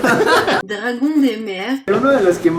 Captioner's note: audio in French